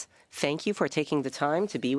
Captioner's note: speaking French